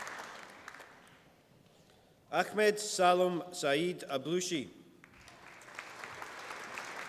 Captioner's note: applause